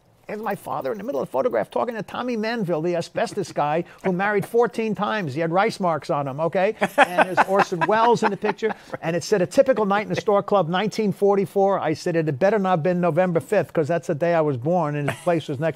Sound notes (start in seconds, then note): 6.8 laughs